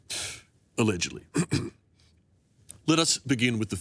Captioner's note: clears throat